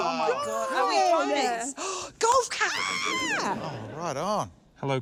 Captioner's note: gasps; gasps; screams happily